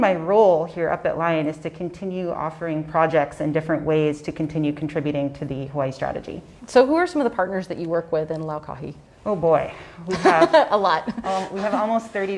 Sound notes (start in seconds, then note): 11.0 laughs